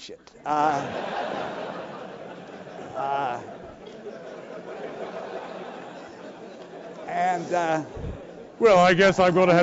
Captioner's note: laugh